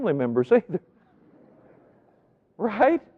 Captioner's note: audience laughing